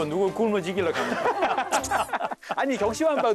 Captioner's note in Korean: 하하하하하하하하